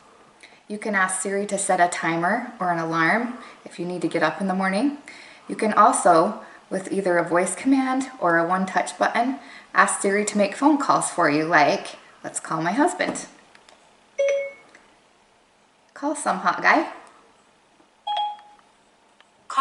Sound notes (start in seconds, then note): 14.2 ding; 18.0 ding